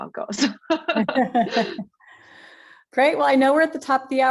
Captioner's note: laughs